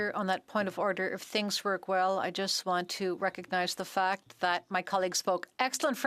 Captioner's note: speaking French